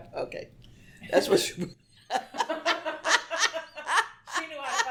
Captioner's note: both laugh